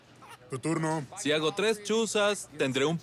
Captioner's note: laughter